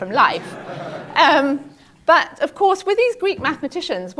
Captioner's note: laugh